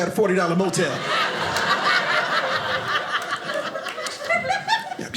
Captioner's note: audience laughing